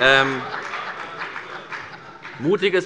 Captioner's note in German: Heiterkeit